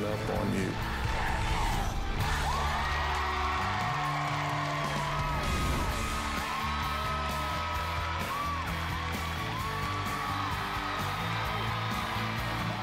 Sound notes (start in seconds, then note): 3.0 crowd chanting "dr. phil!"; 5.3 cheering and applause